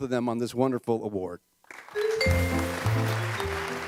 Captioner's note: applause